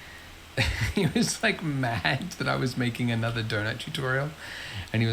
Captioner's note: laughs